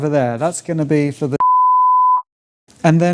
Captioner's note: beep